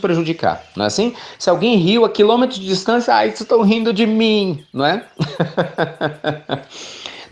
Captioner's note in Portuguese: Risos